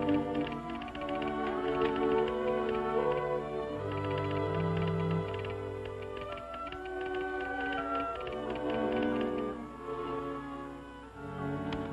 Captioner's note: telegraph clicking